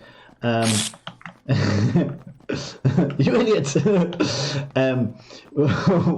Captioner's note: laughs